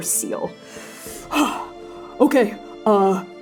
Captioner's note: gasping shakily